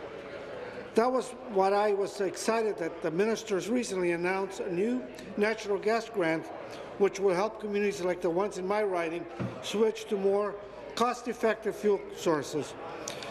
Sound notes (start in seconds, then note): none